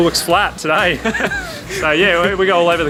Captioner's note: laughs